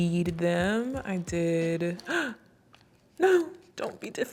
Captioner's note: gasps